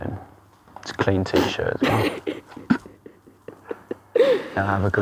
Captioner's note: laughs